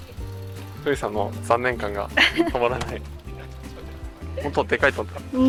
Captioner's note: laughs